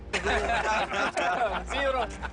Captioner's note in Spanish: Risas